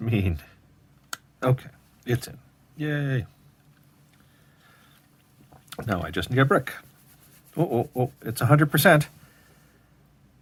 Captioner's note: rubs hands